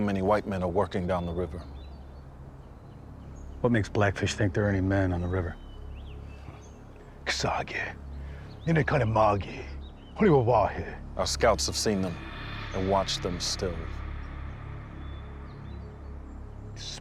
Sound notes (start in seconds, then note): 7.2 speaking shawnee